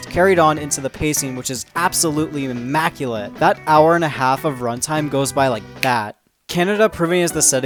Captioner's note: finger snaps